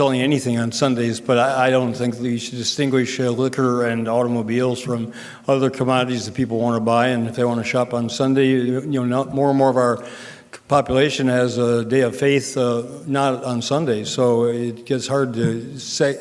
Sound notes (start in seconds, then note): none